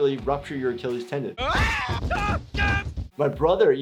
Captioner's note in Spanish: gritando